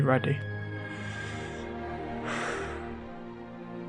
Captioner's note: breathing deeply